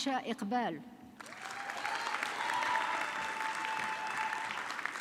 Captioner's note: audience clapping